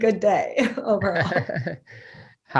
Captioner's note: chuckling